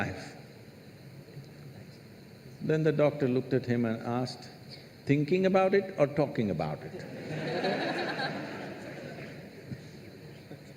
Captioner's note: laughter